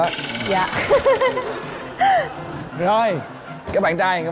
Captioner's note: laughing